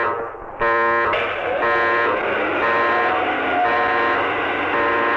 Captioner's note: lifts whirring